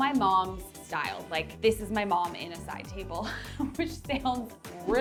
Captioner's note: chuckles